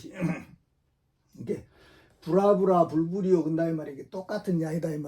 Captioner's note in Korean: 목을 가다듬음